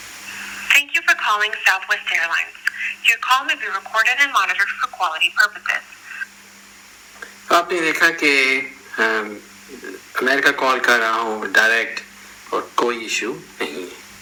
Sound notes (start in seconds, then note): 6.0 call ends